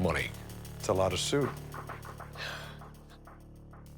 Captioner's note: sighs